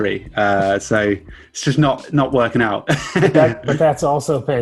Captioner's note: chuckles